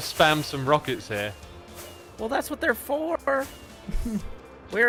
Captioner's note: rockets spamming